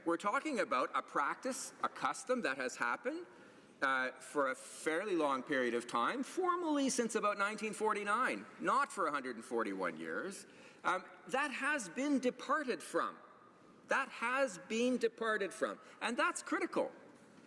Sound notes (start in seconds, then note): none